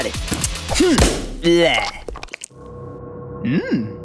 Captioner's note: tongue noises; Smacking sound plays as Gelatin pops open the plastic wrap window; theremin plays, reflecting space environment